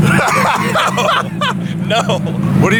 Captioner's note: laughter